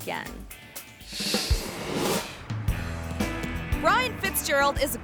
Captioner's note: lighthearted music; air whooshes